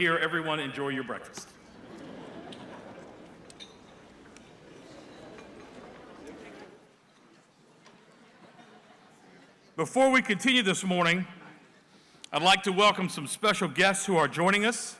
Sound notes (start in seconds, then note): 1.6 laughter; 3.6 crowd chatter